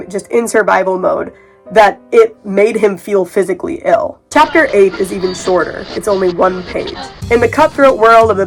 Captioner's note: radio tuning sounds; edgy music